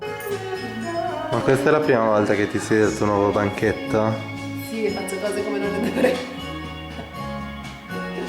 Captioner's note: speaking in Italian